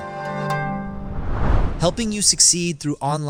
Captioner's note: whoosh